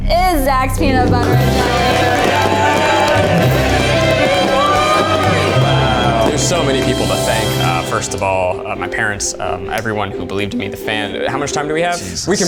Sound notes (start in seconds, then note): 3.3 cheers; 3.3 fireworks popping